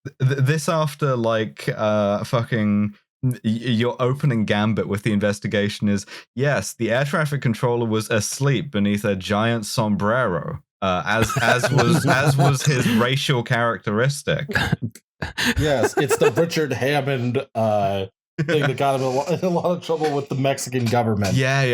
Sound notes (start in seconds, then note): 11.2 laughter; 15.3 laughs